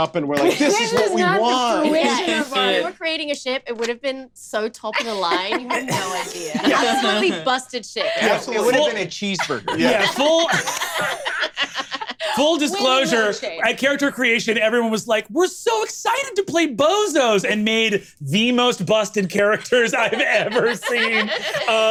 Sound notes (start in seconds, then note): 11.1 laughs